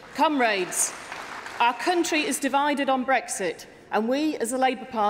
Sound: applause

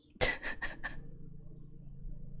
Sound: laughs

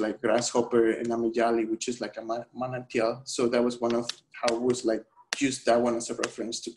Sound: speaking spanish

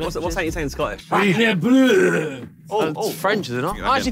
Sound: attempts to mimic Scottish

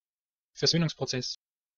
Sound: fast Pronunciation

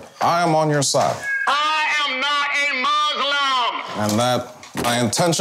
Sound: loud speaker

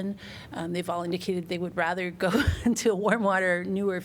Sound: laughter

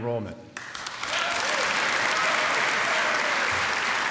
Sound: applause

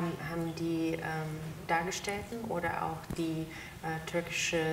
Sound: speaks German

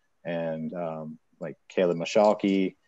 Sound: none

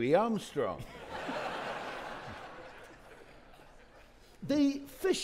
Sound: audience laughing

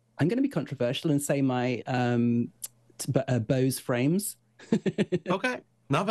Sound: chuckles

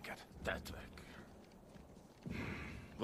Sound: sighs

